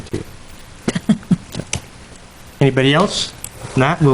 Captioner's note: chuckles